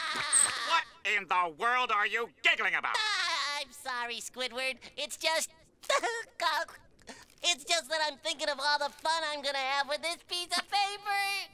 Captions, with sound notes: What in the world are you giggling about?! [laughing] I'm sorry, Squidward! It's just- [giggling] It's just that I'm thinking of all the fun I'm going to have with this piece of paper!